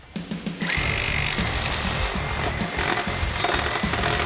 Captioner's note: saw whirring